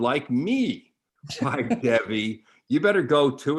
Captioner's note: chuckles